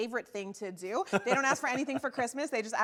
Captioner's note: laughs